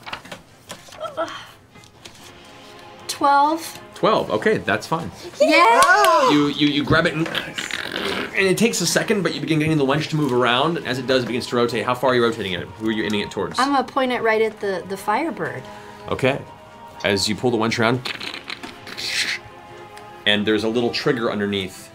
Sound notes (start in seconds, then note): 5.7 cheering; 7.2 grunts